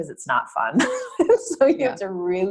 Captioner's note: laugh